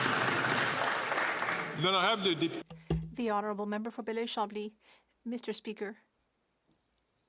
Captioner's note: some Applause